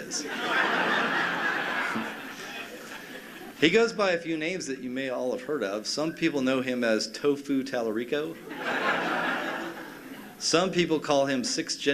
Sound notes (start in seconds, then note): 6.3 laughter